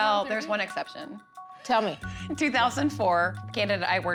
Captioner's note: chuckles